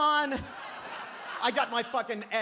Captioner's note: audience laughs